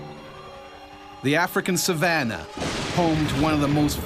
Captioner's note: voiceover